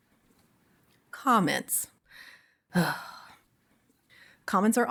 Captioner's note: sighs